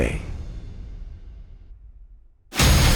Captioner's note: welding and machinery sound